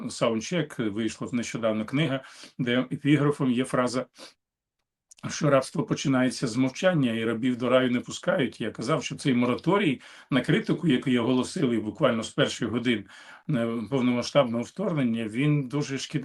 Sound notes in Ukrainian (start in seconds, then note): 2.2 сопіння